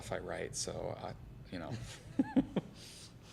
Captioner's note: laughter